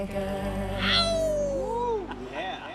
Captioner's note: man howls